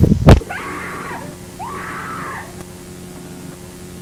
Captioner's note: woman screaming